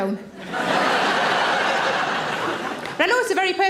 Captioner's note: audience laughs